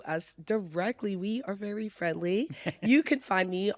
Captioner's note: chuckles